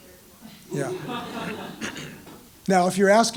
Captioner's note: laugh